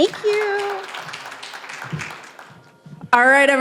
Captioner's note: applause